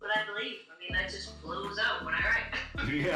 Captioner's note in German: lacht